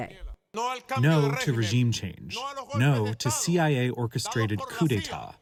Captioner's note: through translator